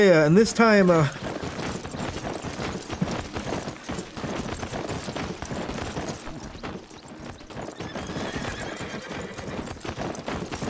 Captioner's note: horse vibrating noises